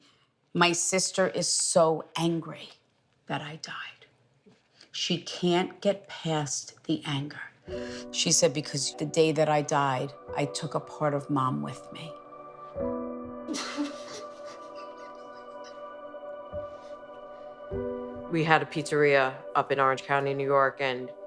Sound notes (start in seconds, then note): 13.5 crying; 13.6 soft sad music